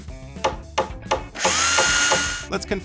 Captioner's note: hammer thumping; drill buzzing